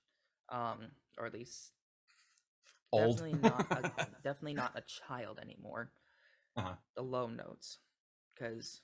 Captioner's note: laughs